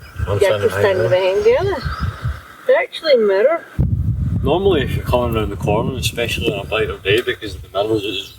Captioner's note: none